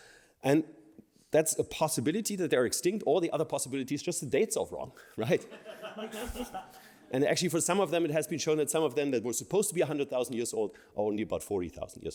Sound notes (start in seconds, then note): 5.3 laughter